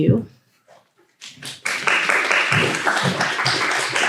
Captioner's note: applause